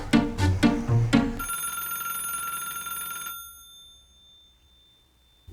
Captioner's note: phone rings